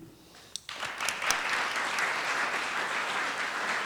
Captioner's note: applause